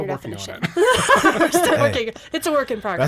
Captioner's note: group laughs